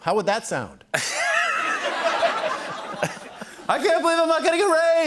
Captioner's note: laughter